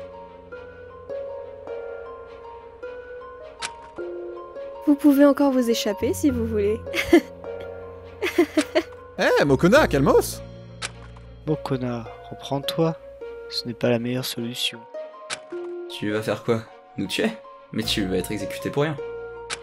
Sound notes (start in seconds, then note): 8.2 maniacal laugh